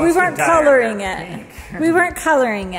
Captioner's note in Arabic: يضحك